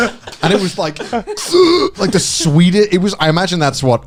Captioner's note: laughing; groans